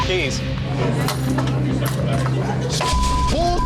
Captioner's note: keys clattering